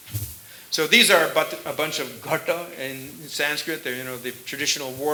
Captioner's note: sanskrit